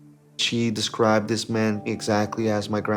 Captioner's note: none